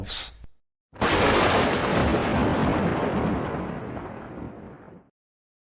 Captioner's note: lightning